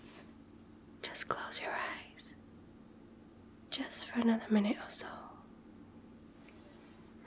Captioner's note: whispers